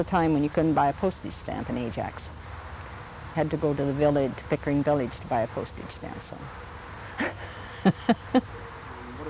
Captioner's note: laughs